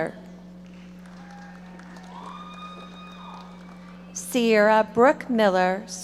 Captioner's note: audience applauding